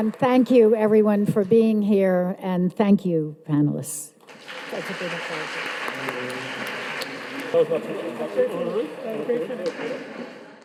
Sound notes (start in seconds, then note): 4.3 audience applauding